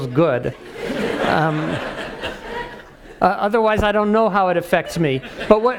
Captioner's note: laugh